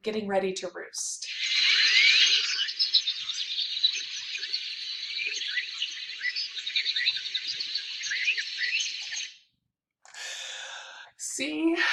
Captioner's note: loud bird noises